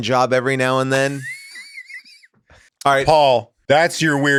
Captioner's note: Rob laughs